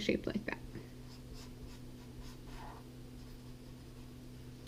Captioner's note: pen scratching